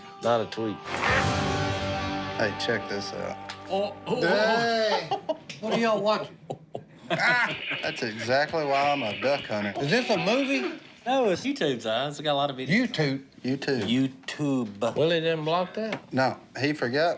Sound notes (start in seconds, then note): 4.8 laughter